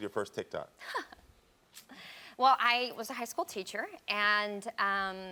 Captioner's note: chuckles